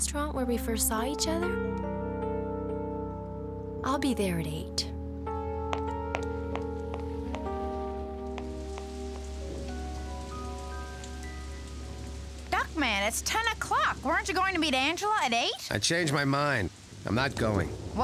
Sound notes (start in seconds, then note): none